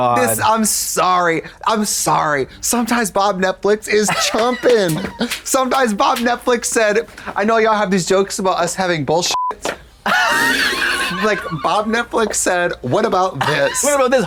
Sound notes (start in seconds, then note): 9.3 beep; 9.8 Katya rasps; 9.8 Trixie toot-toots